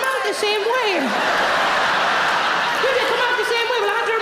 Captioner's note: audience laughing